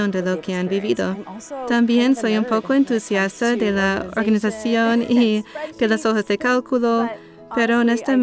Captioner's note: laughs